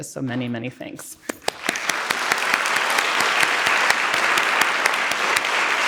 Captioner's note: everyone applauding